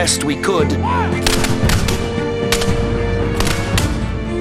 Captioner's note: gunshots booming